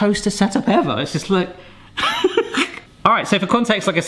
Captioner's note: laughs